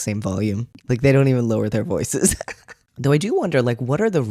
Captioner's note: laugh